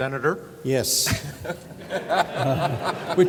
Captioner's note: laughter